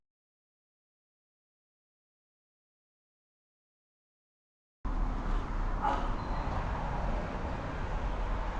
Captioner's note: laughs